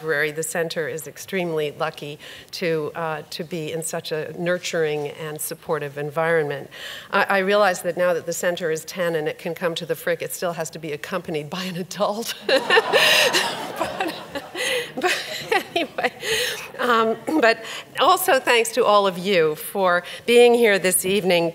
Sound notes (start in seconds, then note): 12.4 audience laughs; 12.4 laughs